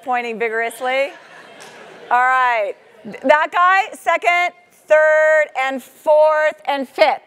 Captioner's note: laugh